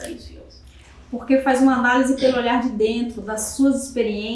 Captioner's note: speaking portuguese